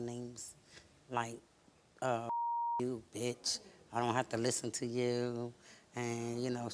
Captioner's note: beep